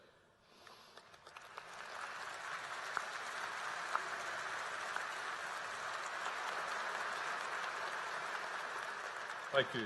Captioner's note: applause